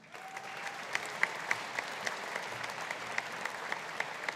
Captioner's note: audience applauding